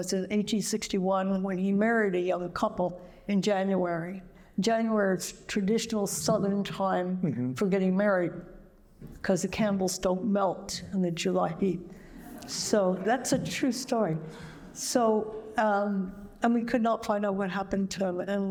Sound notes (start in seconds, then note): 12.1 laughter